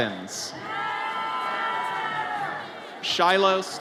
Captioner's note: audience cheers